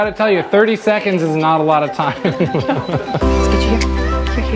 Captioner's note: laughing